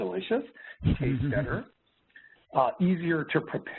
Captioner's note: chuckling